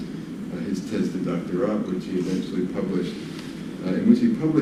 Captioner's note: non english speech